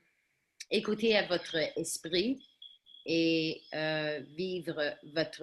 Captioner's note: speaking in foreign language